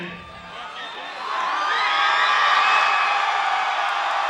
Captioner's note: audience cheering